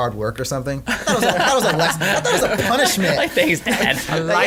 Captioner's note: laughing